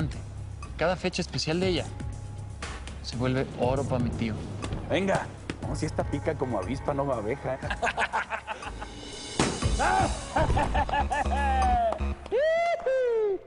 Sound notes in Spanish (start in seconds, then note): 7.6 risas; 9.8 carcajadas